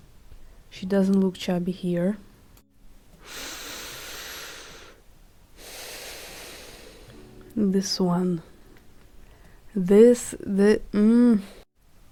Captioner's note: very deep breath